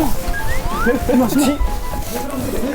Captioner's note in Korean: 쏘오오옥